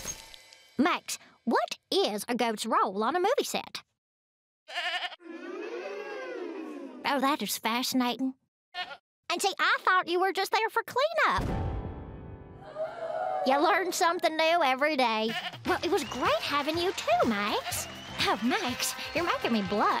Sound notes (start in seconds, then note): 4.6 bleats; 8.7 bleats